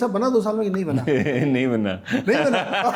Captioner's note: laughter